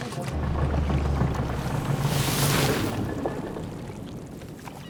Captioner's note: sand crackles